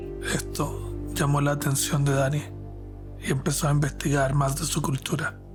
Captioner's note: narrator speaking Spanish